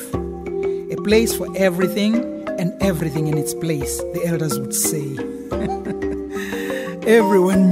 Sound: chuckles

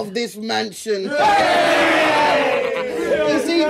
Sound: everyone shouts

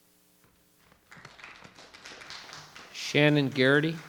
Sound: audience applauding

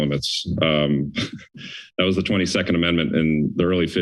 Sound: giggles

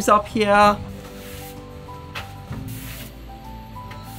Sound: broom sweeps

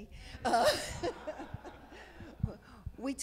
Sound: laughs

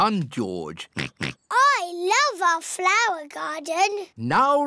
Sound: oinks

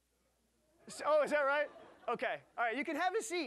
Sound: audience laughing

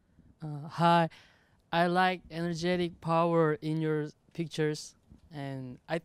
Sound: voiceover

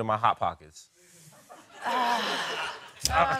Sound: laughing

